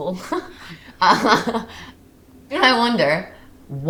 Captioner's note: Maisie laughs